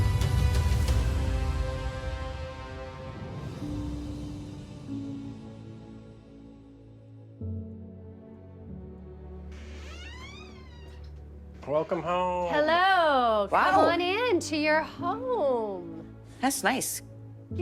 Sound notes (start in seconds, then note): 3.0 gentle music; 9.5 door creaking